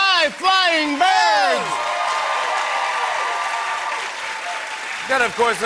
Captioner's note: cheers and applause